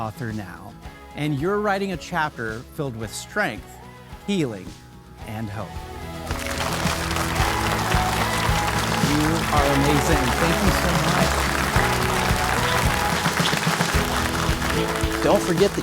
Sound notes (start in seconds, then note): 7.2 audience applauding; 7.2 warm upbeat music